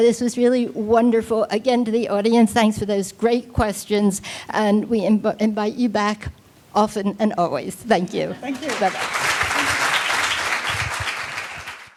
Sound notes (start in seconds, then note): 8.4 audience clapping